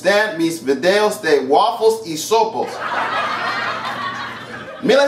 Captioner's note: laughter